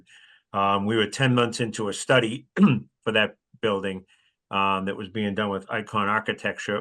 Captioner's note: cough